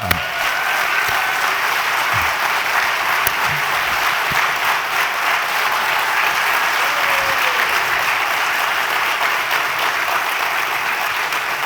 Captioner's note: crowd cheering and applause